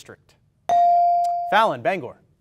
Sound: ding

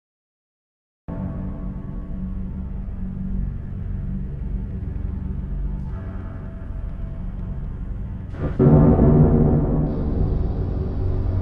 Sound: sound of haunted tower

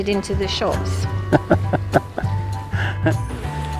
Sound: laughs

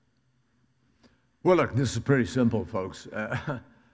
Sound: laughs

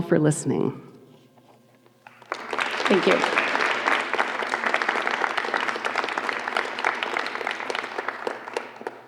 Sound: applause

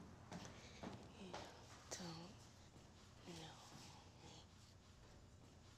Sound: whispering

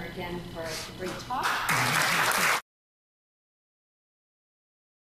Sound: audience applauds

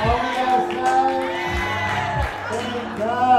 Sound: crowd cheers

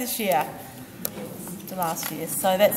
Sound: group murmuring

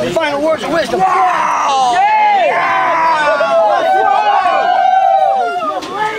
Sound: people yelling and cheering

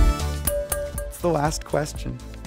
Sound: tapping on glass

